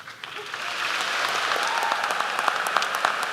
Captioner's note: applause